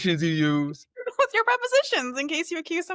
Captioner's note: laughs